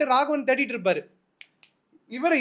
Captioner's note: snaps